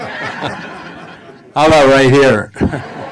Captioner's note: laughing